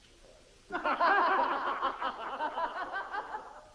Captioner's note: boisterous laughter